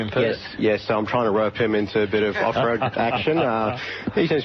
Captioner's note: gentle group laugh